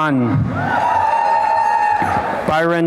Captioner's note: applause and cheering